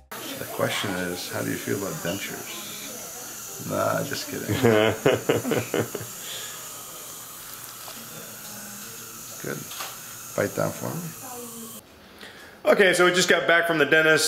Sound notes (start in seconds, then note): 4.1 laughing; 6.5 air whirring